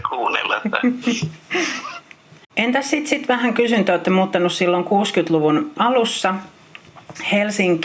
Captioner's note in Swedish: Skratt